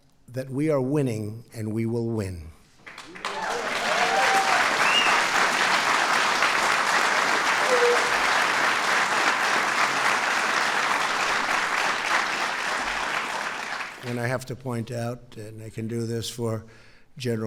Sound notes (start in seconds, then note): 2.8 applause